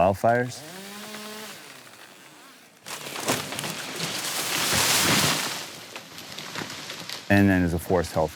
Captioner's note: crashing of branches and tree